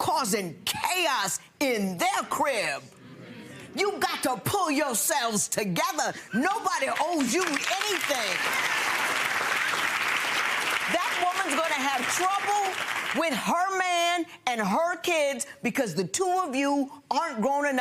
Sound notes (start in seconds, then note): 9.6 audience applauding